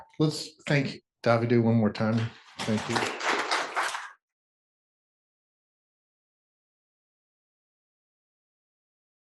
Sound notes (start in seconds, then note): 2.2 applause